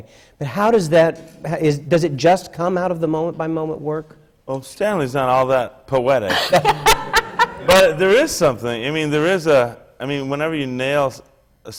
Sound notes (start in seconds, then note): 6.3 laughs